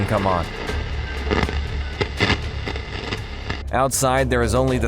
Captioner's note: static sound